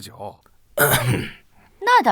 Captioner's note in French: Tousse